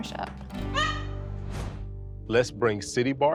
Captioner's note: parrot squawks